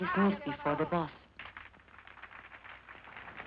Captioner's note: applause